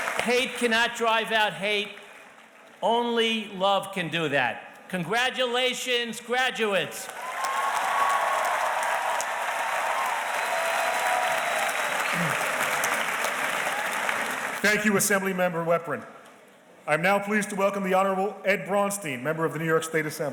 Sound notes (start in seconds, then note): 7.0 audience cheers and applauds